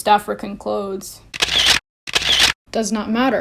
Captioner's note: camera shutters